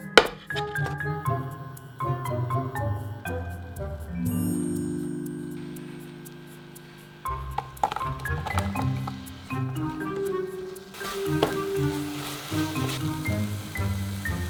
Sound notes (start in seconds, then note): 6.0 syrup sizzling; 6.7 apples dropping